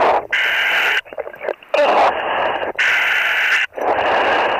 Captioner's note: breathing heavily